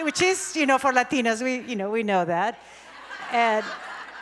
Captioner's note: audience laughs